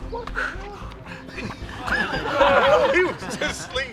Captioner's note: laughing